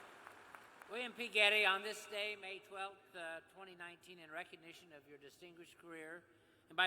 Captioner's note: cheers and applause